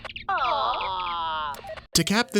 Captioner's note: walkie talkie beeps